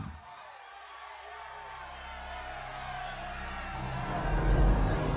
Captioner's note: crowd cheering; ominous music